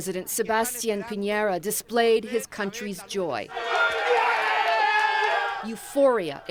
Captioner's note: rowdy cheering